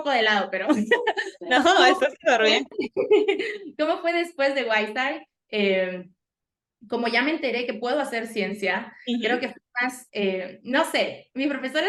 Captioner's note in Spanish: risas